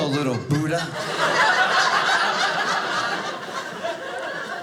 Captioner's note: audience laughing